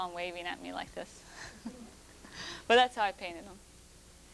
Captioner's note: laughs